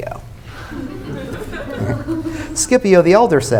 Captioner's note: laughter